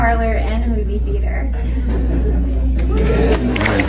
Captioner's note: audience chuckles